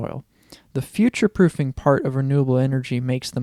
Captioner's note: none